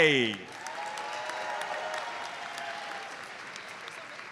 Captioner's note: audience cheers and applauds